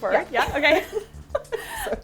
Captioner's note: laughing